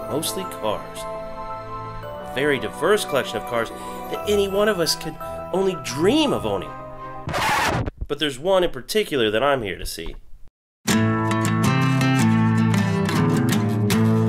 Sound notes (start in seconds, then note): 7.2 record scratching; 10.9 soulful music